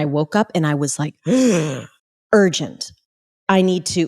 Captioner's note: inhales sharply